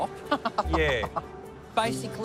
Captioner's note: laughs